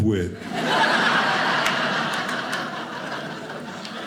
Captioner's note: audience laughing